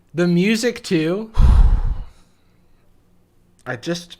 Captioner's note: sigh